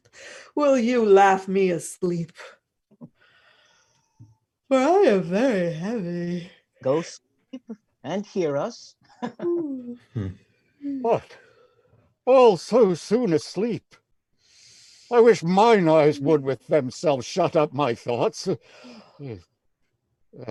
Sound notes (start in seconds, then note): 9.8 yawning